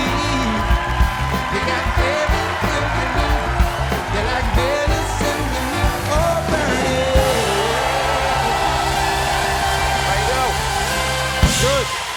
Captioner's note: cheers and applause